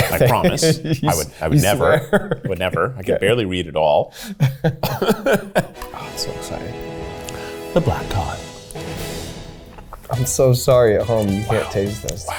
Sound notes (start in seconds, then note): 0.0 laughing; 4.4 both laughing